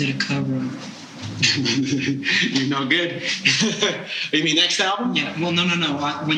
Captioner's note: laughing